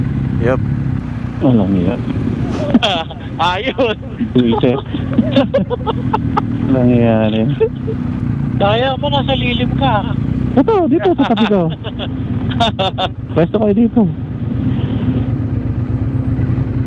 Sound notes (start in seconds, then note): 5.0 group laughing; 12.4 laughing